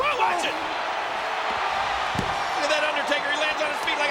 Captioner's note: audience cheers